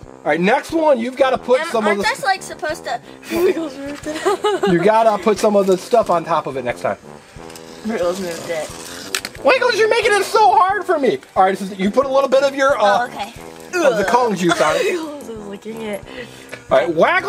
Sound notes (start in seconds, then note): 5.0 assistant laughs